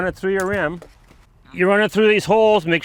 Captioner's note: strap clattering